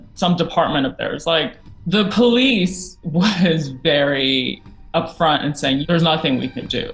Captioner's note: laughing